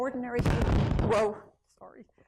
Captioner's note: microphone crackles